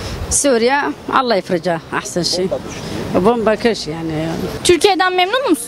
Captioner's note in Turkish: arapça konuşuyor